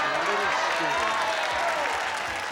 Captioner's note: cheering and applause